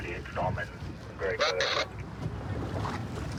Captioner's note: radio communication